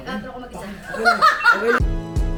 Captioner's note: laughs; outro music